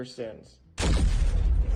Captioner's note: gun fires